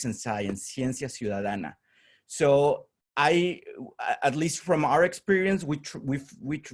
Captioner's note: spanish